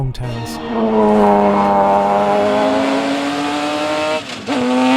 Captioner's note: engine roaring